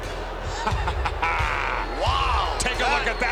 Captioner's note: laugh